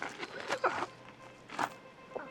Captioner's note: groaning